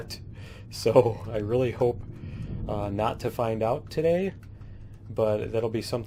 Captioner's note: laughs